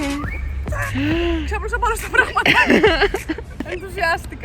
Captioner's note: giggles